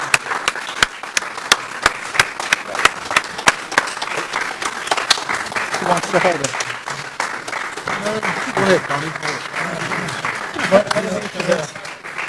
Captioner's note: applause